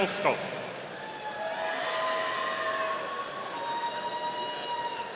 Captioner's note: audience cheering